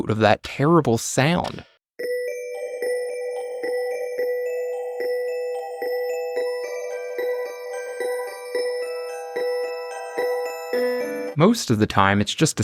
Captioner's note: phone ringing